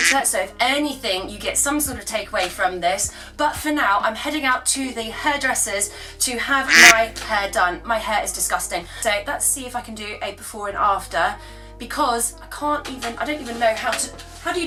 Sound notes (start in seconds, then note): 0.0 duck quacks; 6.6 duck quacks